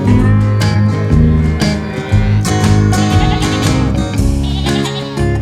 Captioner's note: mooing